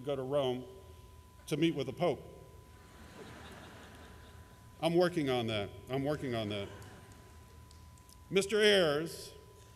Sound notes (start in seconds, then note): 2.8 laughter